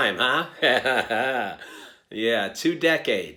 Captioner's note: chuckling